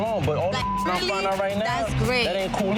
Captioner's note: beep